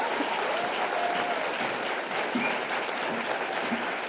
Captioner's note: audience applause